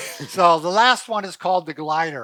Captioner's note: laughs